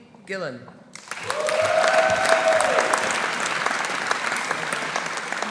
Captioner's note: audience applauding; audience cheering